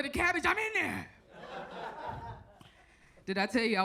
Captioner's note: audience laughs